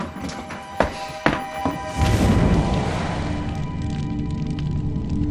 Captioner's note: flames hiss